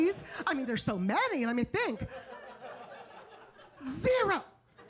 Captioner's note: audience laughing